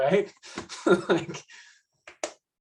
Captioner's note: laughs